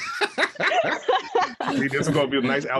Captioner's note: laughs